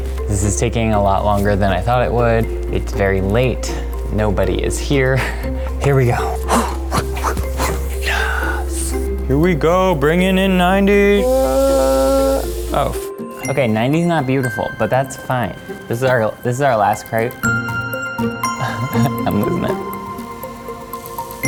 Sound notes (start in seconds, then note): 6.0 pants and whispers; 6.1 sighs; 9.5 normal voice; 18.5 chuckles